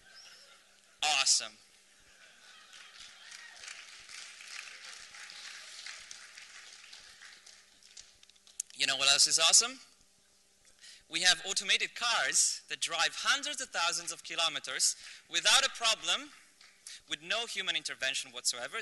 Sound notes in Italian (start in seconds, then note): 2.5 applausi